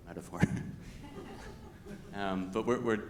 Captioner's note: everyone laughing